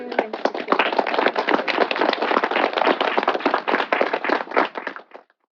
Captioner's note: applause